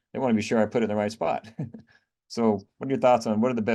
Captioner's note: laughs